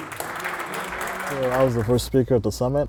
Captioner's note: applause